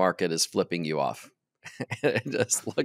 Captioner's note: chuckles